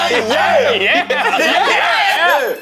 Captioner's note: laughing